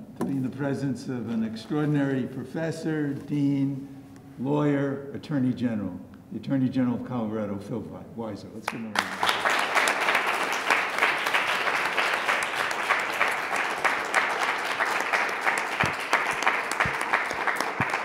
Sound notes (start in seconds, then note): 9.9 audience applauding